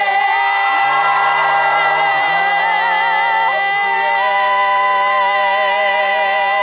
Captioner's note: audience cheers; audience applauds